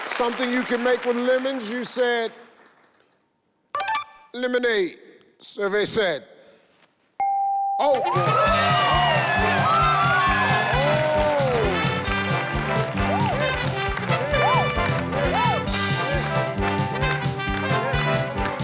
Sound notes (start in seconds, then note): 7.3 audience applauding; 9.9 upbeat music